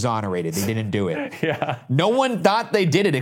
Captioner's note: laughs